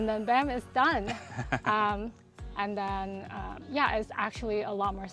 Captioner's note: laughs